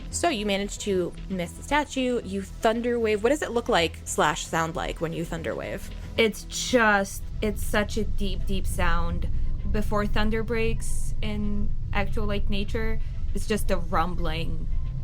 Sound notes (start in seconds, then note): 6.8 thunderous rumbling